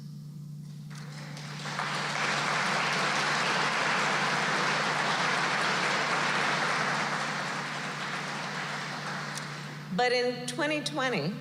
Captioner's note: applause